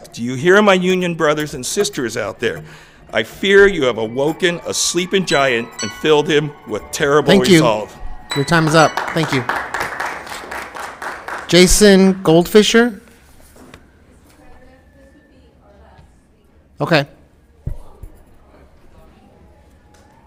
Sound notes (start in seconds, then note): 6.1 alarm chimes; 8.3 applause